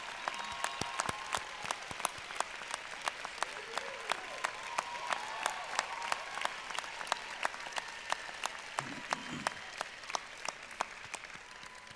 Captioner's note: cheers and applause